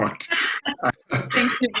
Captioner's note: laughter